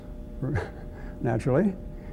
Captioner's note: chuckles